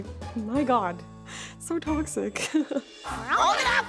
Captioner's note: laughing